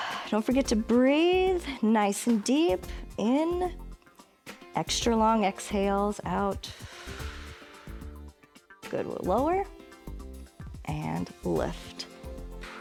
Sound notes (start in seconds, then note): 6.6 exhales